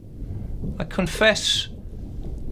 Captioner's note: thunder rumbling